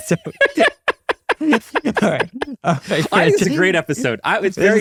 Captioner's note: laughing